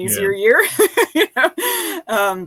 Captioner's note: laughing